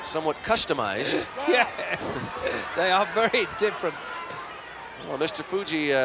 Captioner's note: laugh